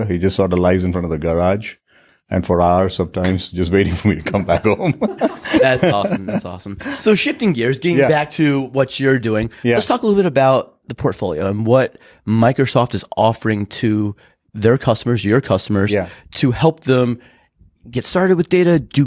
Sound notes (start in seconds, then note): 4.2 laughing